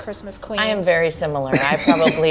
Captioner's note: laughing